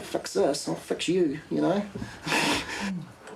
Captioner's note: laughs